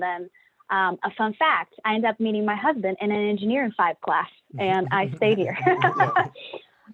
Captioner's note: laughter